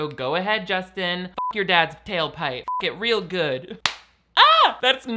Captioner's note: beep